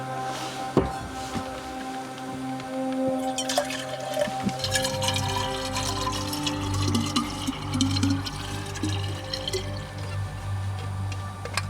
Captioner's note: gas Flame